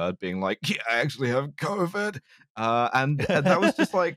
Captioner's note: COVID voice